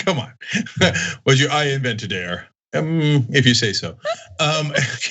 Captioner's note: laugh